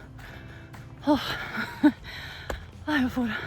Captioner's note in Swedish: drar efter andan